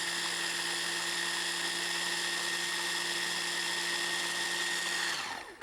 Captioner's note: food processor spinning